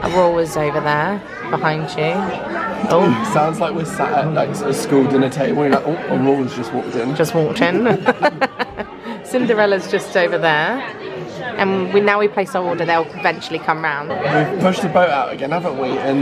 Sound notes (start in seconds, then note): 7.7 both laugh